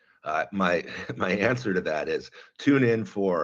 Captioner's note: laughs